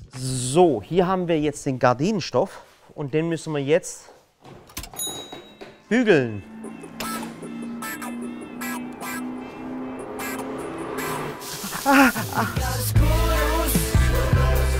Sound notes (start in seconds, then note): 4.8 Klingeln; 10.8 Lässige Musik